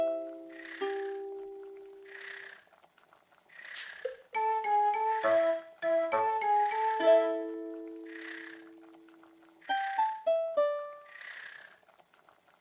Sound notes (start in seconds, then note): 0.2 snoring